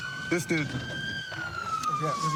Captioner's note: siren wailing